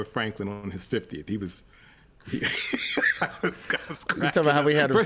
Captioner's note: laughs